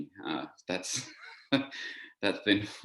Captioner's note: laughs